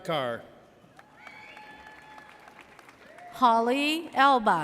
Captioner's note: audience cheers